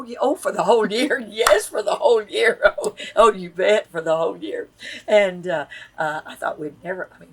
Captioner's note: laughs